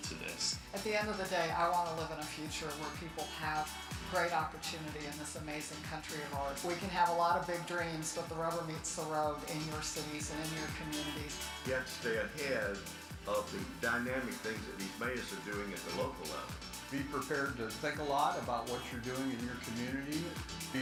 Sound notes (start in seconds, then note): 16.9 voiceover